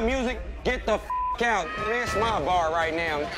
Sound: beep

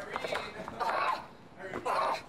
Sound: grunting

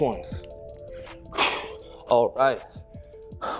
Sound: exhales

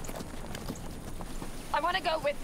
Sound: horse walking

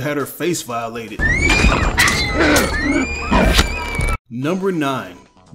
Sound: scream

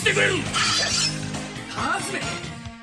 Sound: SFX: sword unsheathes

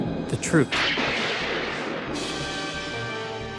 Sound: eerie music; thunder cracking; dramatic music

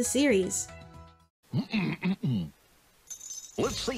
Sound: Goofy clears his throat

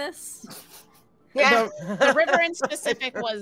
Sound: all laughing

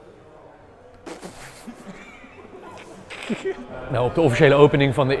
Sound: chuckle

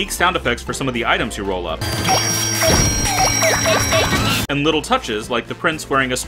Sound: tricycle bells ringing

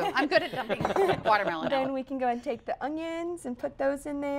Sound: laughter

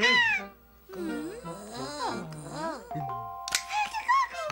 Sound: yelps excitedly; gasping

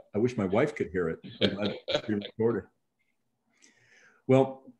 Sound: chuckling

